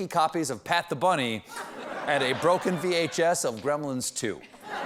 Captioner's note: laughter